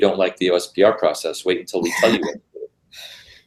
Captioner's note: laugh